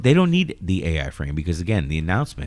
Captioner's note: uh